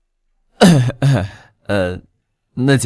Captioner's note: cough, cough